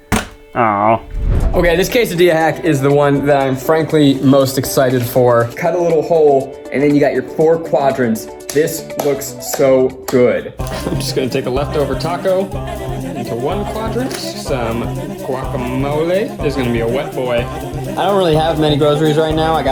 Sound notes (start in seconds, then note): 0.0 plastic bottle flap sound; 8.8 clap; 10.8 upbeat music